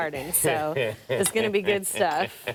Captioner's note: man laughs